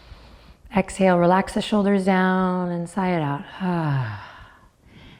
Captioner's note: sighs